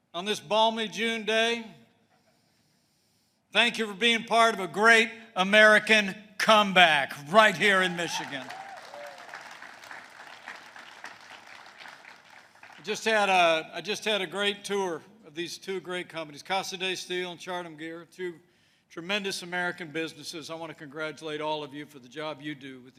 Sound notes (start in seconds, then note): 7.7 applause